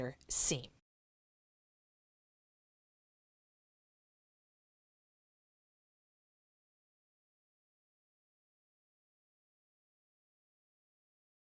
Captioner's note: no Sound Present